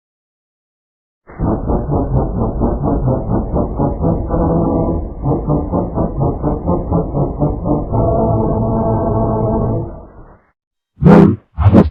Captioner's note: Supernatural 3D Evil Entry Sound